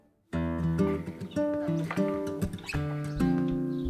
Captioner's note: speaking Spanish